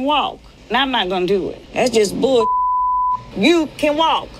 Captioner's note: beep